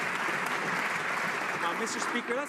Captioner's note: some Applause